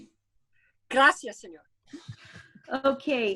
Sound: speaking in foreign language

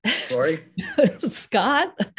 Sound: laughter

